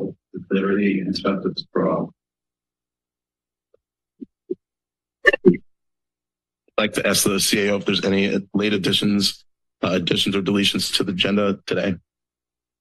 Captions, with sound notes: with liberty and justice for all. [Mic static] I'd like to ask the CAO if there's any late additions, additions or deletions to the agenda today.